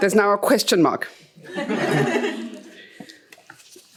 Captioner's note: chuckles